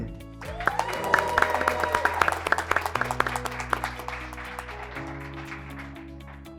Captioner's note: graduates clapping; graduates cheering